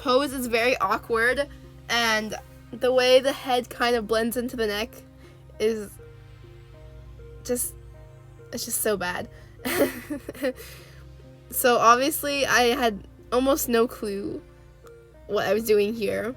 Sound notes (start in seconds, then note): 9.7 nervous laughter